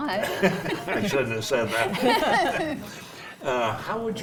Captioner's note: laughs; panel laughs